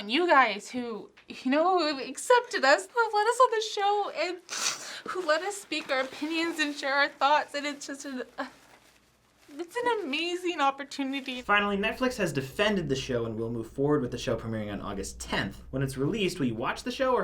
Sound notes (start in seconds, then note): 4.5 sniffs